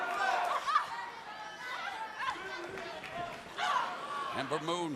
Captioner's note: crowd chatter